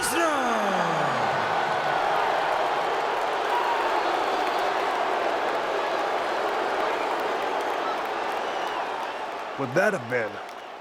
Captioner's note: applause